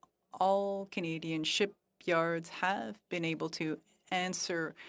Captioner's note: speaking French